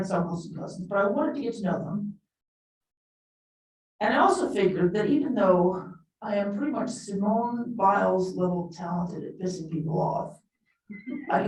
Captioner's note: laughter